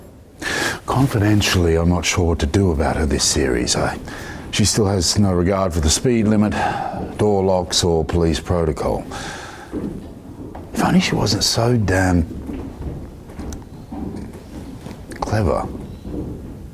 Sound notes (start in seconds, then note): 7.4 banging in the background that is definitely unintentional